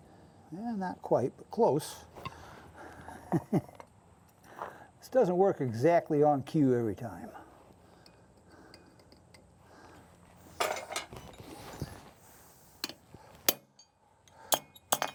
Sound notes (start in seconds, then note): 2.8 chuckles